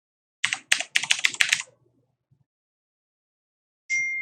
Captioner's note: keyboard clattering; bell dings